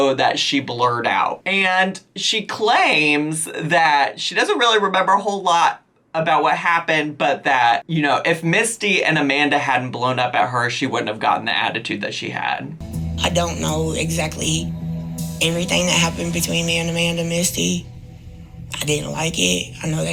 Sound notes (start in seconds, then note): none